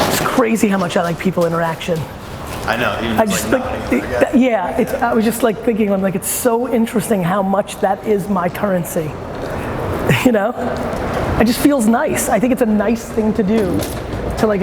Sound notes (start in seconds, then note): 2.8 male Voice